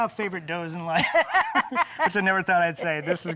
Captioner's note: both laugh